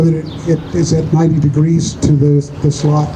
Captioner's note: none